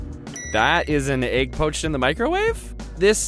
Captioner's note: dings